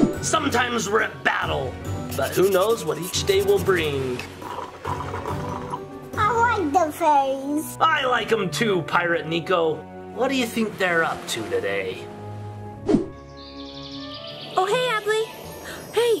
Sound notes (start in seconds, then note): 4.3 dad slurping; 13.0 birds chirping